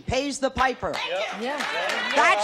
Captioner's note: applause